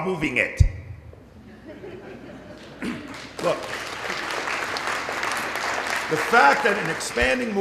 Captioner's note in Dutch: Zacht gelach, applaus